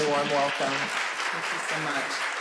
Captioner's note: applause